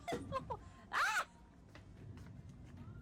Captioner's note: screams